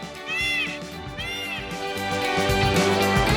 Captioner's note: peacock cries